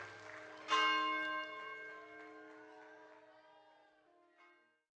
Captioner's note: audience cheering; bell ringing